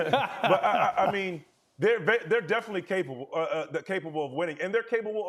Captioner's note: laughter